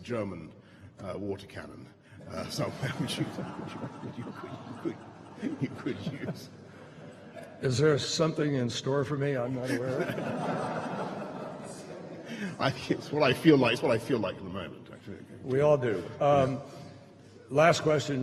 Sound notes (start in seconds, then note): 2.3 laughter; 9.4 laughter